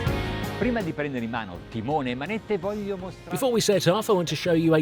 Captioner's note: speaks Italian